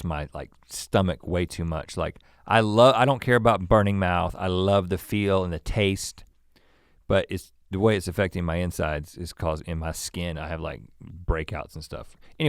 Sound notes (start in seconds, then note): none